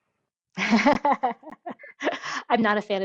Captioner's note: laughs